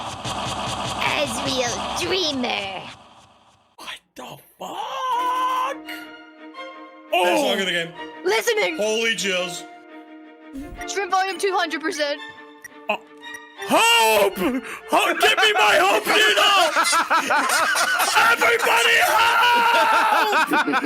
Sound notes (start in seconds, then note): 5.6 exciting music plays; 12.4 stammers; 14.9 all laughing